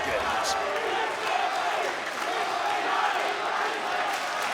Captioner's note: crowd chanting